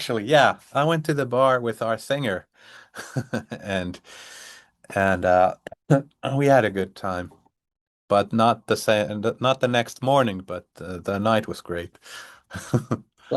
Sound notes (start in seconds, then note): 2.9 chuckles; 12.5 chuckles